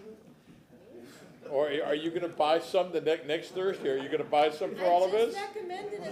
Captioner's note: laughter